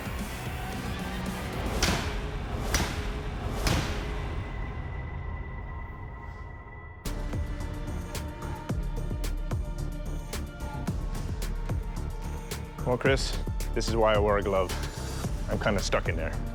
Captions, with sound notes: [thudding] [foreboding music playing] Well, Chris, this is why I wear a glove. I'm kinda stuck in there.